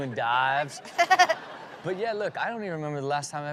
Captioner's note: laughs